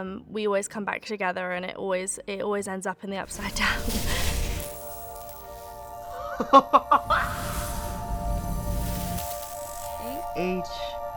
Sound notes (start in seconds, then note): 3.3 dramatic music; 4.5 something buzzing; 6.2 person laughing